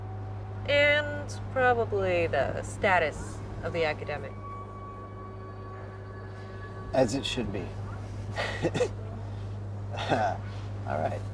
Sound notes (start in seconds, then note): 8.2 chuckles